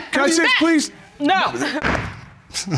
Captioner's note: bangs gavel